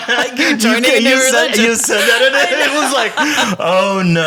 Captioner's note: laughing